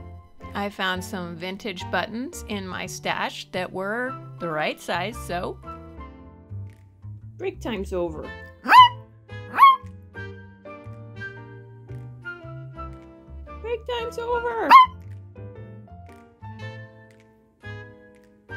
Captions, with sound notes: I found some vintage buttons in my stash that were the right size, so... Break times over. *Happy Bark* Break times over. *Bark*